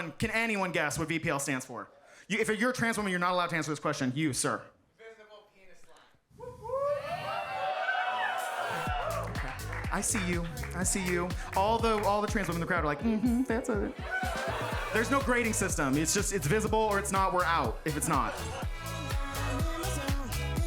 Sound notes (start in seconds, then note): 6.4 audience cheering; 13.1 audience laughs